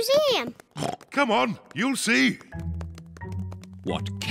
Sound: oinks

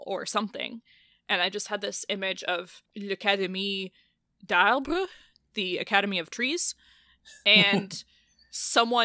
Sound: laughs

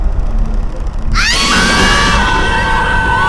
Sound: screams

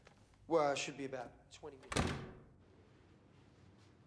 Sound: door closes

